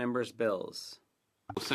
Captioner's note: speaking French